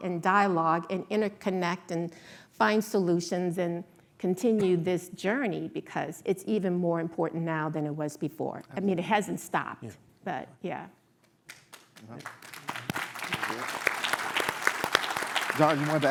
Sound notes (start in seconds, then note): 14.2 applause